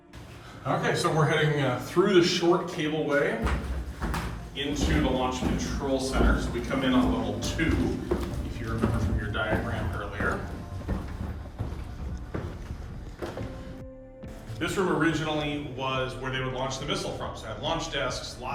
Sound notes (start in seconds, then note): 10.9 footsteps walking